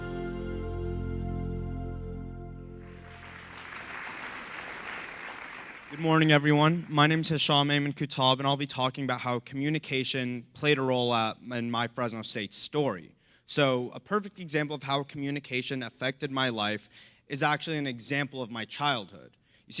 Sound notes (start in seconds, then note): 2.8 clapping